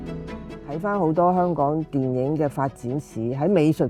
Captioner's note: Cantonese